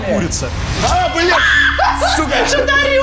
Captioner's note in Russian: крик